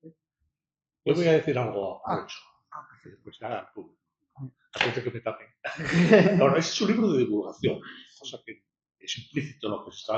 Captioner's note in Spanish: risas